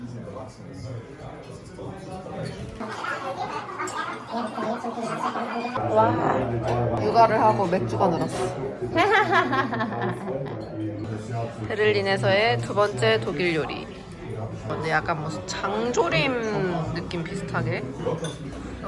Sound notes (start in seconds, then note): 2.8 gulping